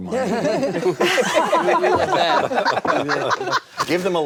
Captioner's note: all laugh